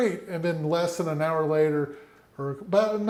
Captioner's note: none